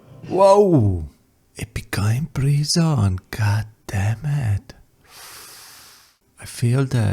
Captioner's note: breath